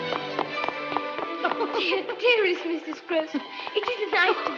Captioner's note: laughing